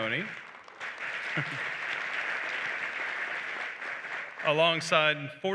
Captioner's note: applause